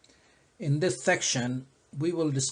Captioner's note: voiceover